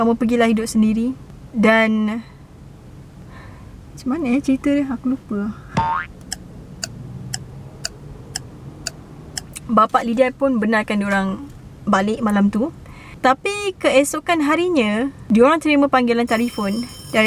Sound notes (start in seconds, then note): 5.7 boink sound effect; 16.2 phone ringing sound effect